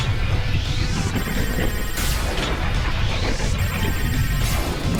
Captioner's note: laser exploding